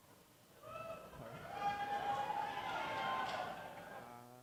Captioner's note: cheering